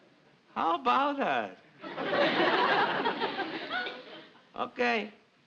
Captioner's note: audience laughs